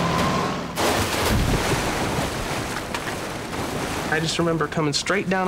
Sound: tires screeching; splash

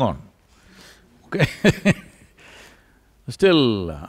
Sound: laughs

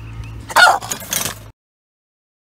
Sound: startled bark

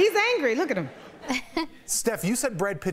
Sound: laughter

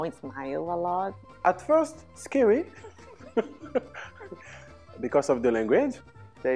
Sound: laughs and pauses

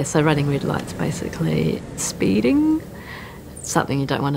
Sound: bus engine

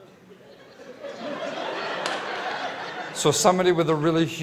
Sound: laughter

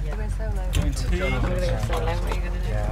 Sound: audience murmur

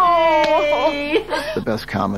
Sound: audience laughing

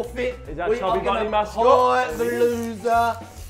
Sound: none

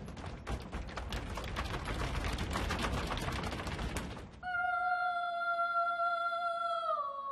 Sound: feet tapping; singing choral music

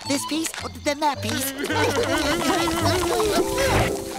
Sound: grunting

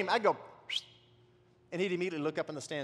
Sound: whistles

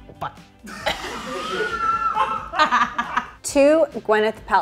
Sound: all laughing

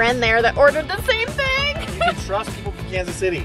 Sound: laughs

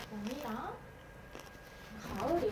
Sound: nom nom

